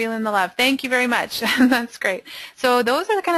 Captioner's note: laughs